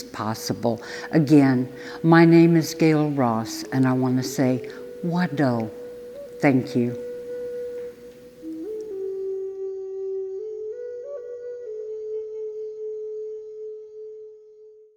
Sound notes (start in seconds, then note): 5.0 speaks Cherokee; 8.8 native flute music plays